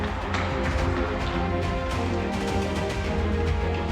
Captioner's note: running footsteps